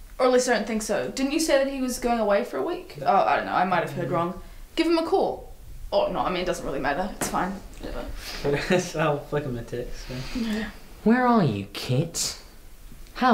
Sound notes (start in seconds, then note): 8.4 chuckling